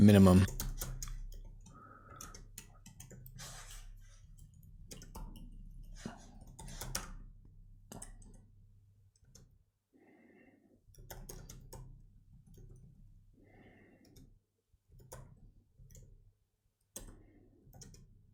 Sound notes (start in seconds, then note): 0.4 typing; 0.7 silence; 7.7 typing